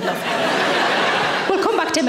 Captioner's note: audience laughing